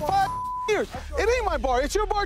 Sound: beep

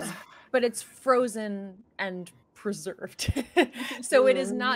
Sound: laughing

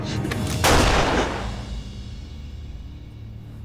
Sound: gun sound

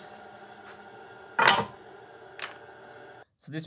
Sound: clack

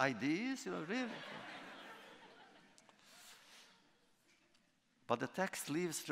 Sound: laughter

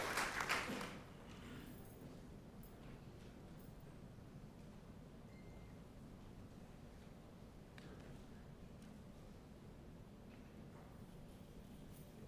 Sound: applause

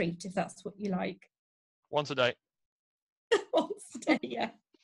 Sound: laughs

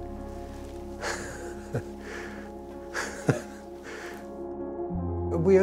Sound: chuckles

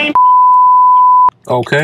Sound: beeping

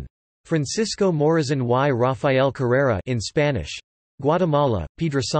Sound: in Spanish

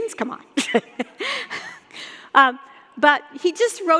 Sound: laughing

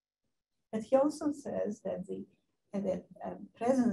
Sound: woman's Voice

